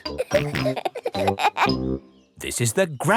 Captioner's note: peppa and george laughing